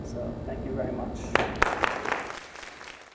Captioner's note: applause